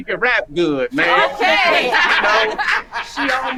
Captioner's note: group laughing